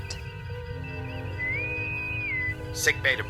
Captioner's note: intercom whistles